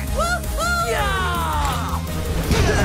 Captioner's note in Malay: dua-dua berteriak